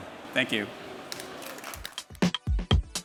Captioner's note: applause